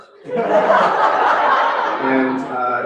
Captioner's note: laughter